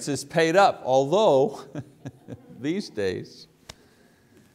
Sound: chuckles

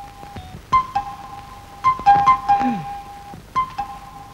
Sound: door Bell

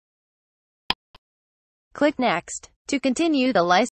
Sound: click sound

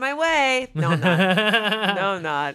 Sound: chuckling

